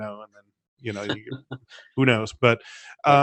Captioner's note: laughing